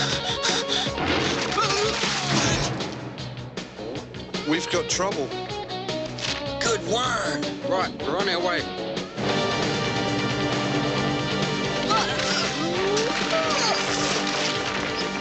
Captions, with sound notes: [ Gasps ] WE'VE GOT TROUBLE. - GOOD WORK ! - RIGHT. WE'RE ON OUR WAY. [ Grunting ]